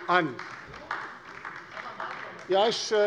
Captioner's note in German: Beifall bei der LINKEN